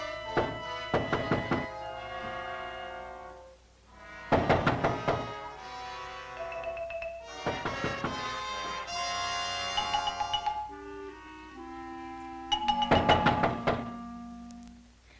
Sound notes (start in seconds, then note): 0.7 knocking on door; 9.1 suspenseful music; 12.5 knocking on door